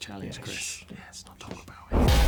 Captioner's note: shhs